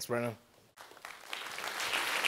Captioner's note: applause